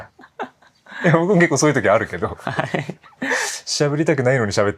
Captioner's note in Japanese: 笑い